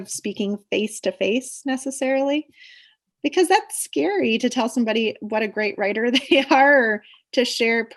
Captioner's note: laughs